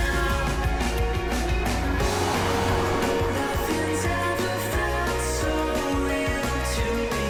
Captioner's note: bright music; car chugging